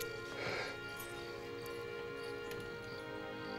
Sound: <i> blowing</i>

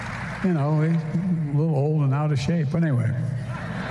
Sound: laughter

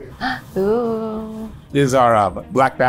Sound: gasps

